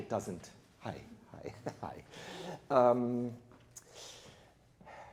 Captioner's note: chuckles